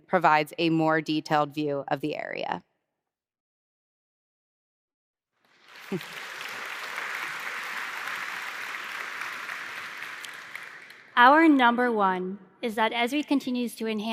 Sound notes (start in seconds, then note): 2.7 applause